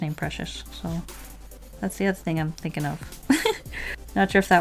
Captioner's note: laughs